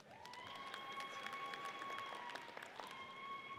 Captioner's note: audience cheers